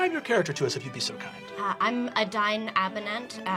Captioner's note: British accent, anxious tone